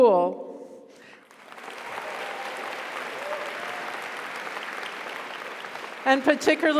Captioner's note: audience applauds; audience cheers